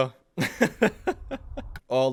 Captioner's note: laughs